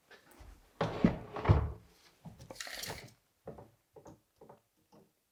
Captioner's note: wood scraping